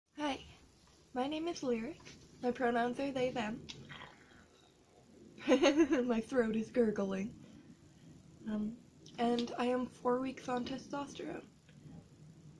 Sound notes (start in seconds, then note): 3.8 gurgling sound; 5.4 weird giggle